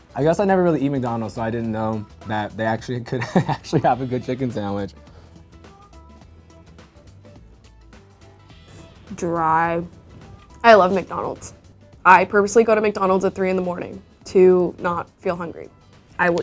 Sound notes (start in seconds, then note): 3.2 laughs; 5.6 upbeat music